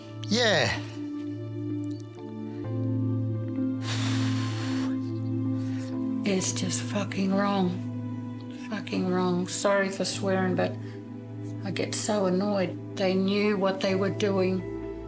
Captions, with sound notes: Yeah. (SIGHS HEAVILY) It's just fucking wrong. Fucking wrong. Sorry for swearing, but I get so annoyed. They knew what they were doing.